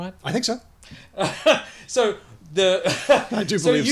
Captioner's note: laughs